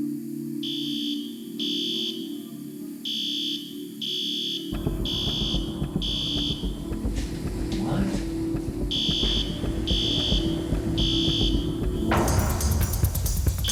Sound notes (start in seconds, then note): 0.1 dramatic music playing; 0.6 fire alarm beeps loudly; 8.8 fire alarm continues